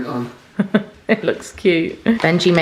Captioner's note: laughs